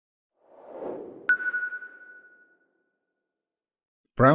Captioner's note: logo whooshes into view, stopping with a sonar-like 'ping'